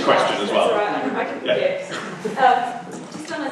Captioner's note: voiceover